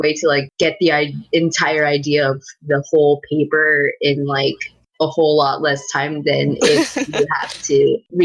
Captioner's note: laugh